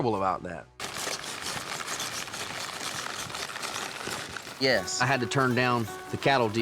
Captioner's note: footsteps